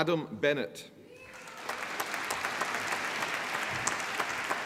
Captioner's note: applause